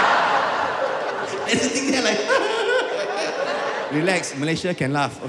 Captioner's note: nervous laughter